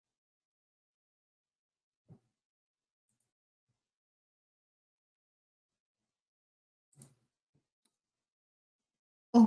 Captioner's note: silence